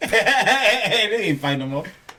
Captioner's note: laughing